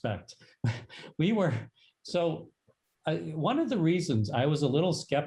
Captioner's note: laughter